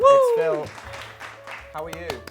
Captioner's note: audience applauds; applauds